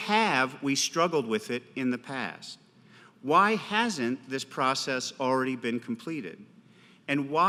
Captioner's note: none